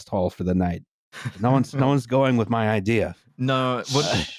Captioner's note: light laughter